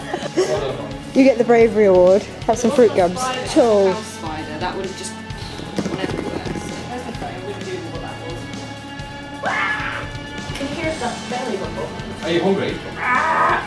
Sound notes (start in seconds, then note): 9.4 warrrgh!